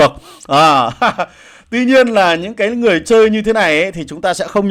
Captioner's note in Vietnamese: tiếng cười